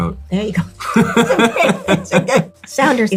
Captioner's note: Lewis laughing